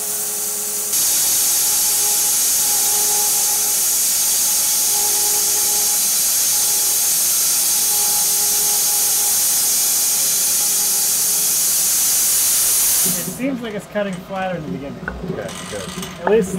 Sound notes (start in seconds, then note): 0.9 saw whirring